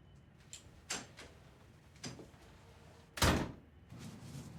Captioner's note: door opens then shuts